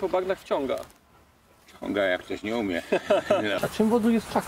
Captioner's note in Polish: śmiech